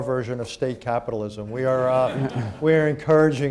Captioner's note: laughter